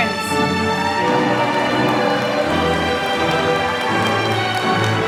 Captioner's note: applause